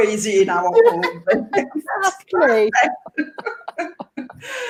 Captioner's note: both laughing